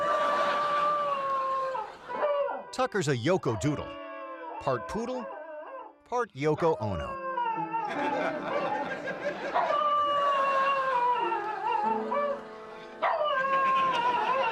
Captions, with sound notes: Tucker's a Yoko Doodle, part Poodle part Yoko Ono. (dog howling) (audience laughing)